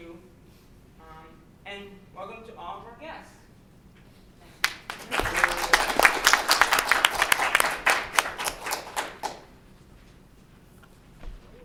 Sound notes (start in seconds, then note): 4.5 applause